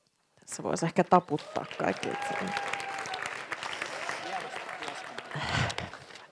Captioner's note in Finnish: Hurraahuutoja ja aplodeja